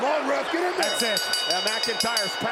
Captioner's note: bell dings